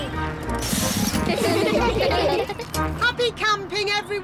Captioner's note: all giggling